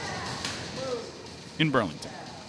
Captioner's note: high-fives